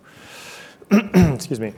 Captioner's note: clearing throat